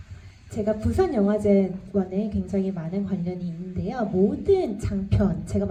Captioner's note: speaks in foreign language